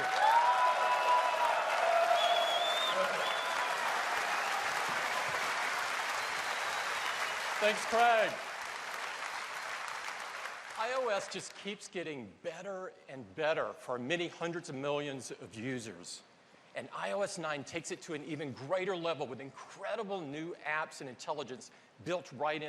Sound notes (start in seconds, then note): 0.0 applause; 4.9 cheers and applause